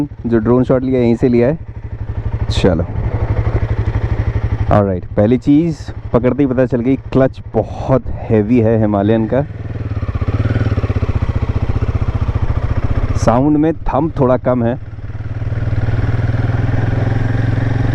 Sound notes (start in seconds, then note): 9.7 engine thrum; 16.6 engine thrum